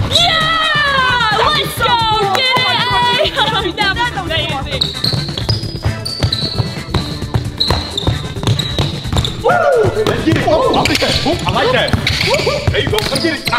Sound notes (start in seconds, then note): 5.2 shoes squeaking; 5.2 upbeat music